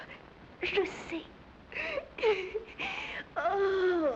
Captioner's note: laughs